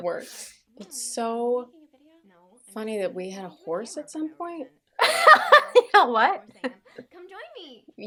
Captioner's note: laughter